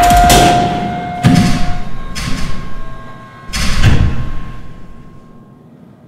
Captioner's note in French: Arrêt des machines